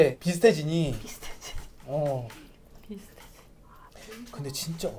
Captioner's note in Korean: 긁적긁적